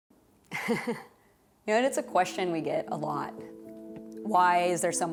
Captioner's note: chuckles